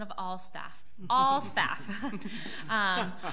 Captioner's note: laughing